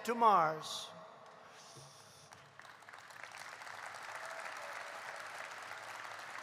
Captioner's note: applause